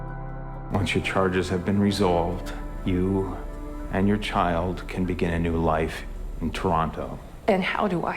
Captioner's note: voiceover